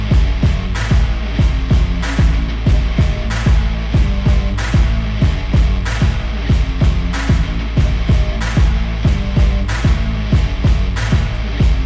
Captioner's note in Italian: Applauso